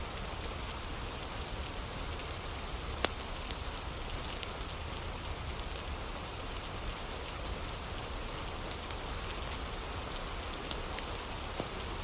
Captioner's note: fire crackling